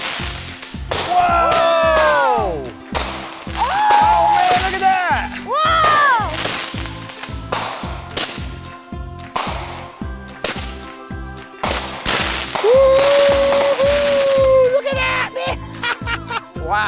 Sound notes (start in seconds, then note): 7.1 firework pops, crackles; 14.4 laughs